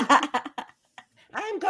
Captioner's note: cast laughing